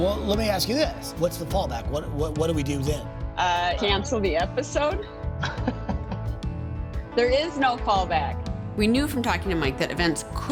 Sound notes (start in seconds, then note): 5.4 laughing